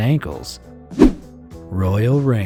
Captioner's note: image whooshing